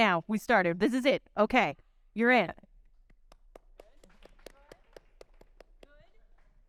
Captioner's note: audience clapping